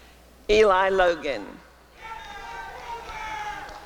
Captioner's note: applause and cheering